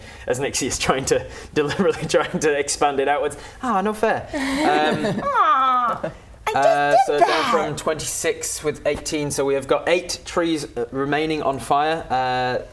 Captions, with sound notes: as Nixie is trying to deliberately trying to expand it outwards Aw, no fair *laughing* Aww I just did that! From 26 with 18 So we have got eight trees remaining on fire